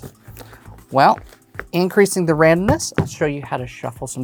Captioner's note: taps cards